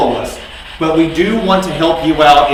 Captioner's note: static buzzing